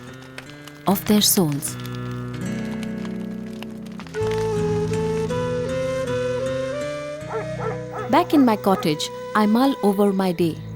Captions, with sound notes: of their souls. (mysterious music) (bonfire) (dog barking) Back in my cottage I mull over my day.